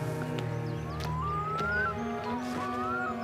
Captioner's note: eerie bird calls